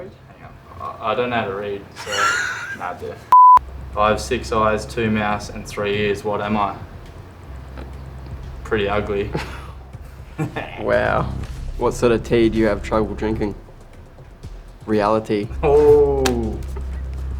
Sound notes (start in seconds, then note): 3.3 beep; 9.2 chuckles